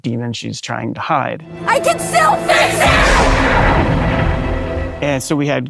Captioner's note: echoing